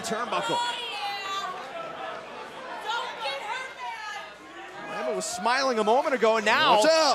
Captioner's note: crowd chatter